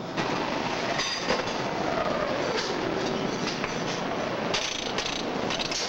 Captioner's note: machinery clanging and humming